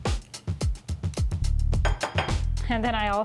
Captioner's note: plate clinking